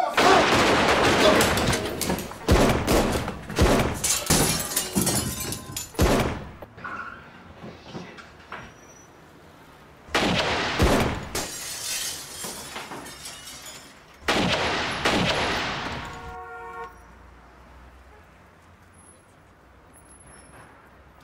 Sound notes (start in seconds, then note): 0.1 gunshots; 10.1 gunshots; 10.5 glass breaking; 14.2 gunshots